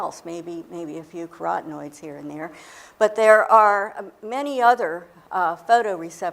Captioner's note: none